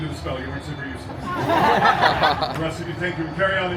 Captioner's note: guests laughing